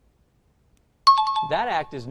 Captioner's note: time chime